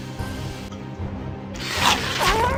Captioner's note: Dragoturkey moans in pain